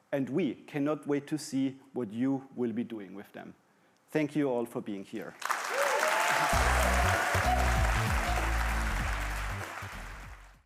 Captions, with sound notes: And we cannot wait to see what you will be doing with them. Thank you all for being here. (audience applauding and cheering)